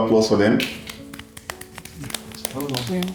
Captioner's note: clapping